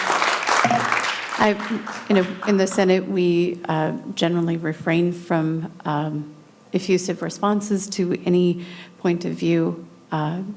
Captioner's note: applause